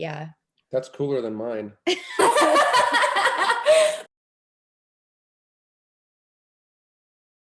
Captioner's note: laughter